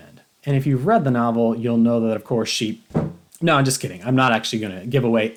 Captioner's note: thump